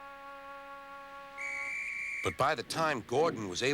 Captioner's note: whistle blows